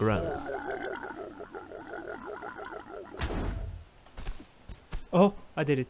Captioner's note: counting grunts